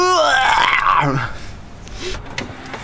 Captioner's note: laughting